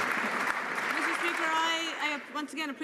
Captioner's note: some Applause